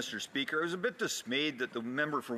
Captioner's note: speaking French